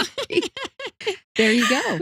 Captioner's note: laughing